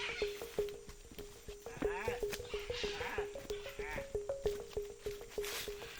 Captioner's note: imitating birds calling